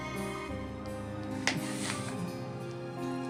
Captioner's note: exhales deeply